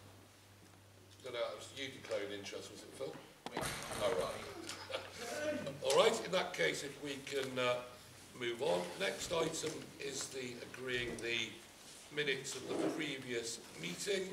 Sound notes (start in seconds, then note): 4.4 laughs